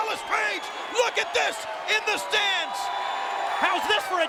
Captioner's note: audience cheering